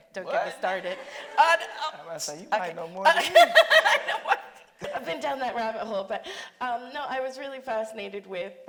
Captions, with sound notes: anyway, don't get me started. - What? I was about say, you might no more than me. (laughing) - I've been down that rabbit hole.